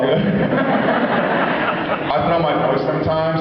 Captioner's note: laughs